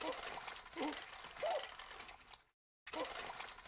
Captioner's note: Pop groans